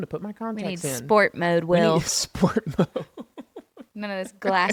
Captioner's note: laughs